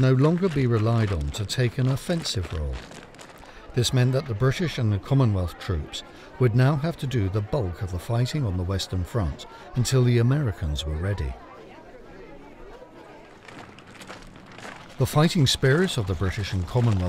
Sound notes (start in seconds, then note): 12.8 soldiers murmuring; 15.0 boots stomping